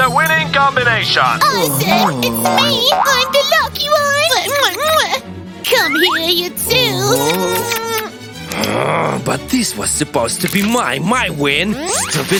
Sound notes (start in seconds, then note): 8.5 loud kissing sounds